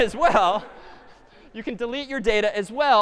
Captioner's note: laughter